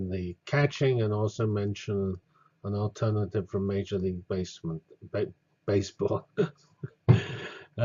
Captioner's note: laugh